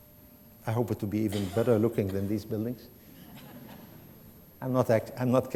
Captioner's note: laughter